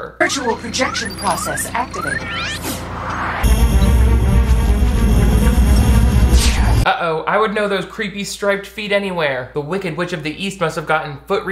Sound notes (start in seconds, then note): 2.4 screen whooshing; 3.5 lasers buzzing